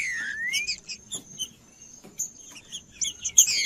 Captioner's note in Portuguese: trinca ferro cantando